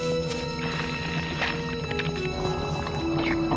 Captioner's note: squelching